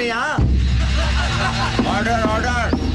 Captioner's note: Everyone laughs